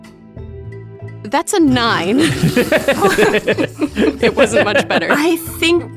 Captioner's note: EVERYONE laughs